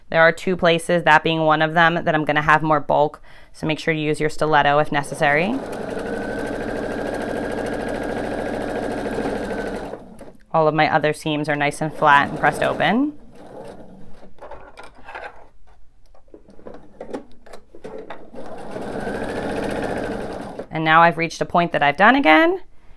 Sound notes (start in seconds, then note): 4.8 sewing machine whirs